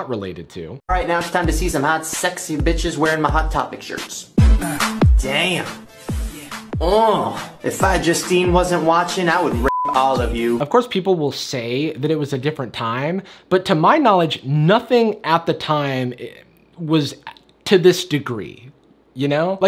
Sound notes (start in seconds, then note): 4.5 hip-hop music; 6.1 Shane moans